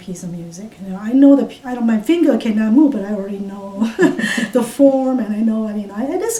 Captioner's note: laughs